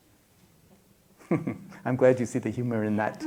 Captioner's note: laughs